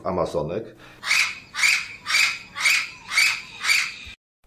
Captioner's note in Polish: krzyk papugi